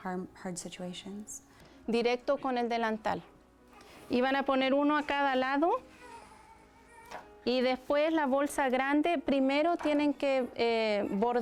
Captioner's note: speaking Spanish